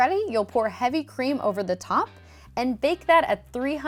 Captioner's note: none